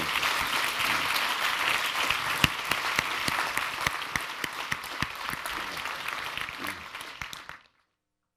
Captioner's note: applause